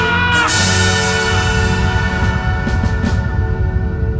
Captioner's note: kirk's cry continues to echo